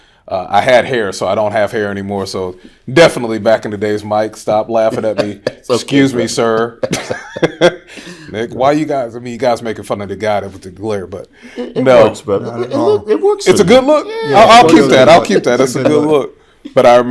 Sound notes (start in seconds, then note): 6.1 laughing; 6.3 chuckles